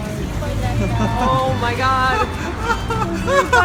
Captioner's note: laughing giddily; still laughing giddily